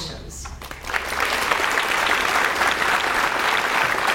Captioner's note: audience applauds